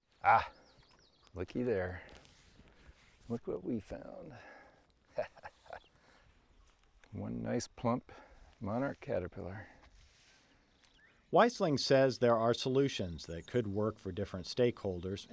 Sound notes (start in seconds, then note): 5.0 laughs; 11.4 voiceover